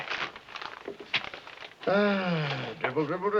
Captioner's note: sigh